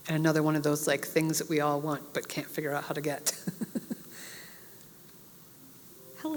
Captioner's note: laugh